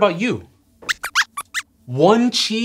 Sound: squeaks

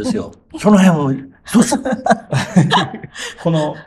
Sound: laughs

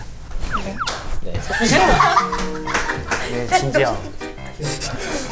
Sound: they burst into laughter

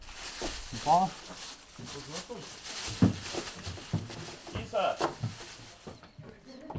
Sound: people speaking foreign language

